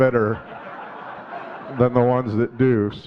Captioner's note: audience laughing